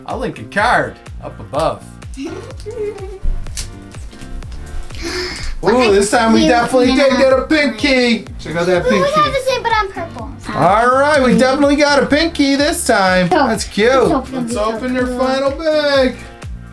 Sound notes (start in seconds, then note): 2.1 giggles; 4.9 gasps, mumbles